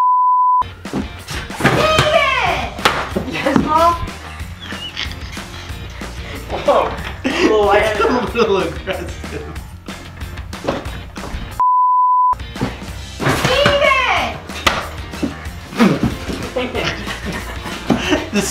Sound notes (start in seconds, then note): 0.0 beeping; 4.5 laughing; 10.6 laughing; 11.6 beeping; 15.6 laughing